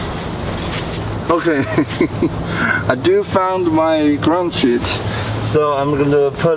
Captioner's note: laughing